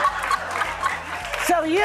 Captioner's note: audience laughing